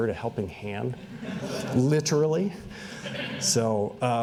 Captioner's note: laughter